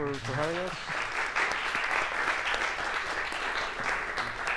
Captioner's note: applause